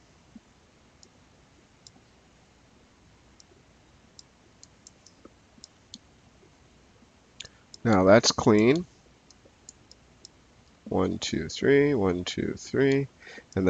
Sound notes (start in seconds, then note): 9.6 mouse clicking